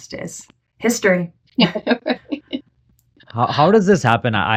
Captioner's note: laughing